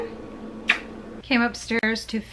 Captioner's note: kiss